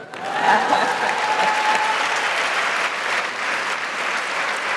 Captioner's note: audience applauding